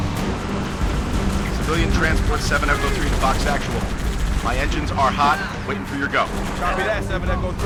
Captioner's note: radio